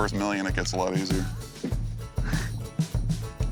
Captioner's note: chuckling